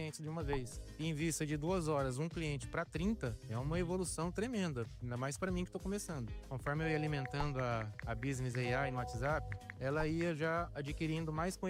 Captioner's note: speaking another language